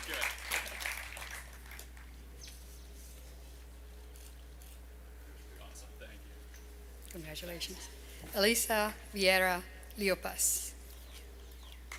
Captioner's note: applause